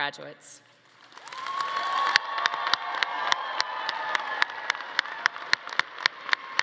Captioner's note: everyone applauding; attendees cheering